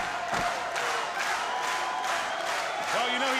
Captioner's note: crowd cheering